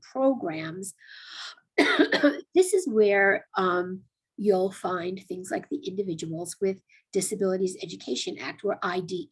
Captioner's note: cough